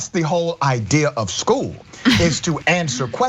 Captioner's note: laugh